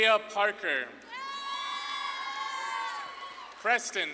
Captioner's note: audience claps and cheers